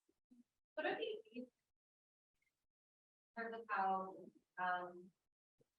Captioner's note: audio blurs